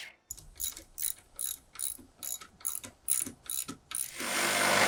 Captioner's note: wrench cranking; saw cutting